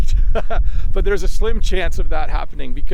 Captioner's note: laughs